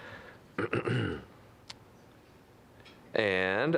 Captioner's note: clearing throat